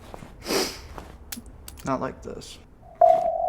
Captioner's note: deep breath